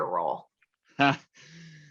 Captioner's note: chuckles